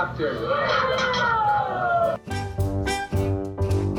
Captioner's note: yell